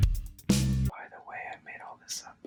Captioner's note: whispering